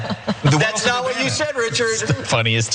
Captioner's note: laugh